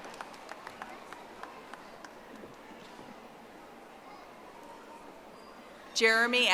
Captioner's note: audience applauding